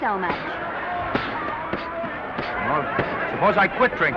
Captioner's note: punches popping